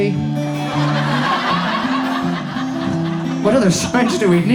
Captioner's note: audience laughs